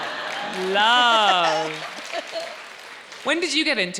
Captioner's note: audience laughs; audience applauding